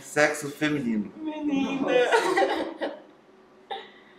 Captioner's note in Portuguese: risos